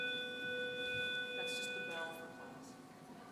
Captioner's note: school bell buzzing